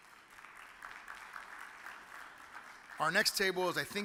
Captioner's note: audience applauds